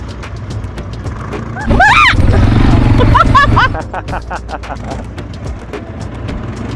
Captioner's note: scream; laugh